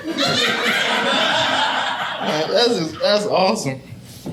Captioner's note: audience laughing